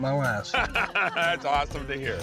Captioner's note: laughter